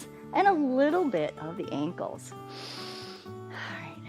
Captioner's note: inhales